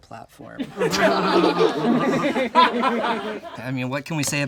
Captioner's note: all laugh